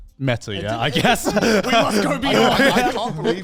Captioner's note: laughs; chuckles